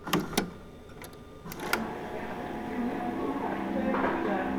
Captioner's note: cassette whirring; gentle music